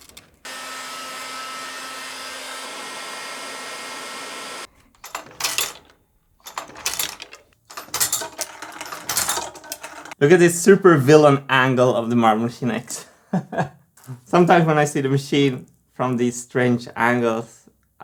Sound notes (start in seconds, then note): 0.4 heat gun blowing; 5.1 several marble drops; 13.3 laughs